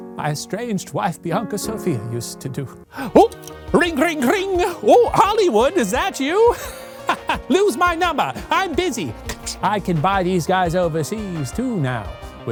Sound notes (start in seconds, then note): 3.1 imitates phone ringing; 6.8 laughs